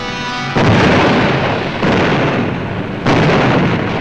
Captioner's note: guns blasting